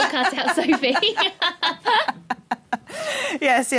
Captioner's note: laughing